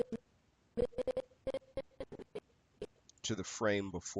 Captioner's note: audio skipping